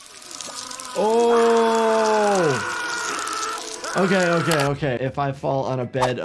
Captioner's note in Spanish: insectos agitados; hombre gritando